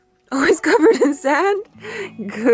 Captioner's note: laughing